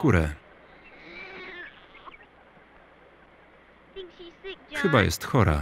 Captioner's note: baby crying